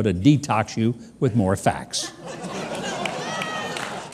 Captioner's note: laughter